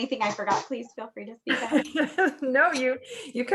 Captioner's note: laughs